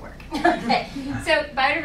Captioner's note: laughs